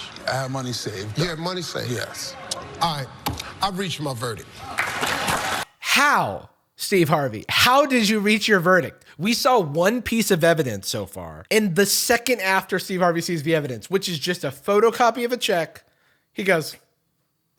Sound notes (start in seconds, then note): 4.6 crowd clapping